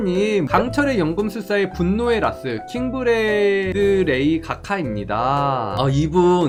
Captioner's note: voiceover